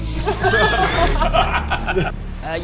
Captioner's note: no-context laughter